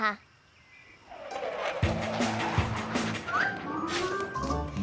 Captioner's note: air rushing